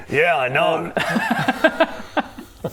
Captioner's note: disgusted laughter